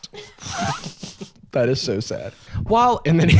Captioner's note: laughing; laughs